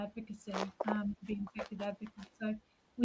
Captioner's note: talks faintly